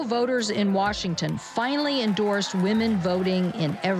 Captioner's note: distant cheering